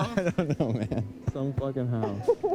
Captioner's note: laughs